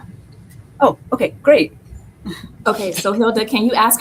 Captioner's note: chuckles